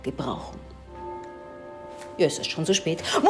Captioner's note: bell rings